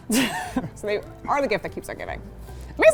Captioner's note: both laugh